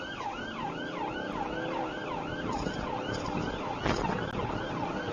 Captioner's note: engine accelerating